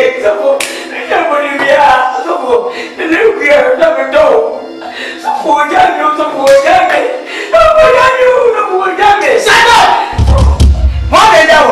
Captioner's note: Kwadwo Crying as he speaks